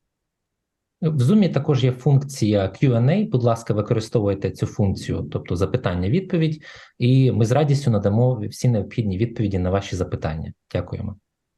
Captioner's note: foreign Language